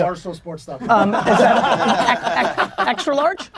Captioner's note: group laughter